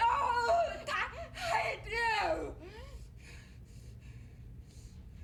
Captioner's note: panting